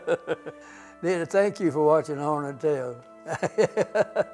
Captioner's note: laughs; laughs